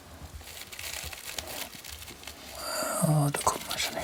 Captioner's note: quiet rustling